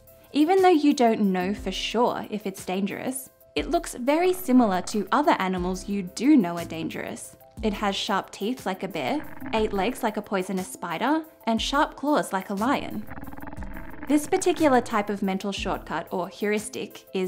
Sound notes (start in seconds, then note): 13.0 creature growling